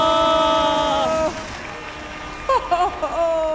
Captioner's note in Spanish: Aplausos